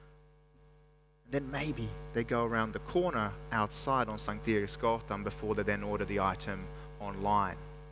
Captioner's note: speaks Swedish